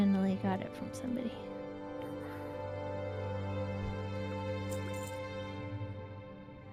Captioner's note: whispering